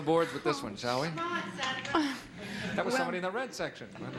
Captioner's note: chuckles